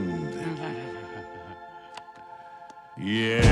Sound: Lawrence chuckling; dramatic music

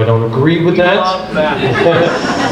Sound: group laughs

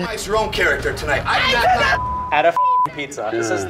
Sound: beep

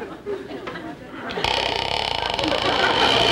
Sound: ladder creaking; audience chuckling

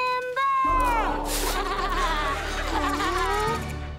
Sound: laughing

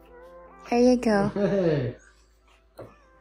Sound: chuckling

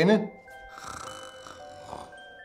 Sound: snoring

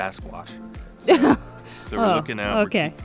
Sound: chuckles

